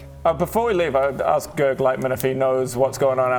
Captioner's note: none